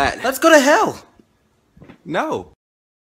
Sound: dead silence

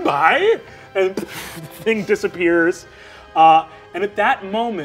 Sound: imitates magic dissipating

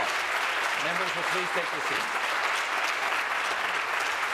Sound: applause

